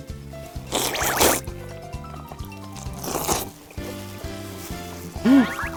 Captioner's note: slurp slurp